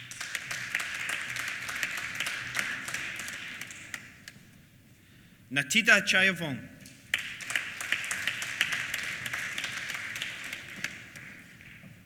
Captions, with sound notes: (APPLAUSE) Nattida Chaivong. (APPLAUSE)